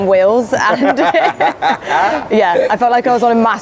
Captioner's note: laughs